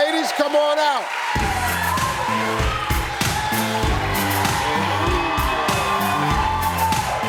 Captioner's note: audience cheering; upbeat music